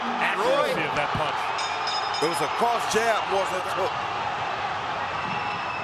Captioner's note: bell dings